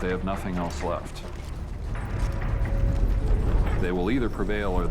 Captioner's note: marching footsteps